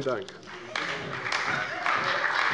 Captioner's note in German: Beifall bei der CDU und dem BÜNDNIS 90/DIE GRÜNEN